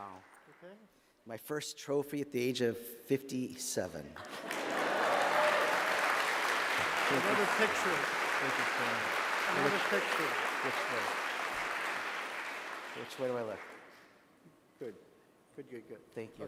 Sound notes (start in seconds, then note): 6.2 laughter; 7.2 applause